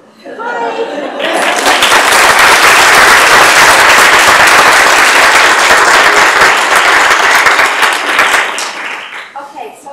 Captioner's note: applause